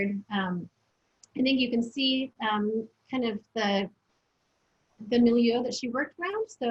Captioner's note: foreign language